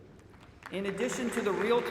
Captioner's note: applause